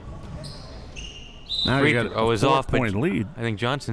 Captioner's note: whistle chirping